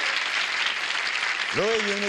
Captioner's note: applause